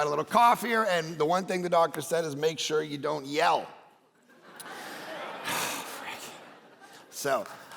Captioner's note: congregation laughing